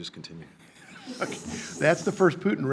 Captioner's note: people laughing